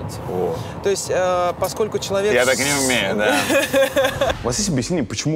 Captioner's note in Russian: Ира смеётся